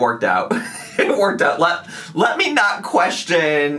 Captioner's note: laughs